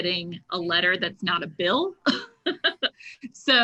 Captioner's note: chuckles